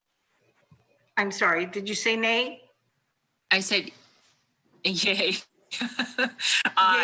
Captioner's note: laughs